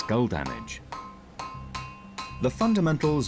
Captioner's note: mallet tapping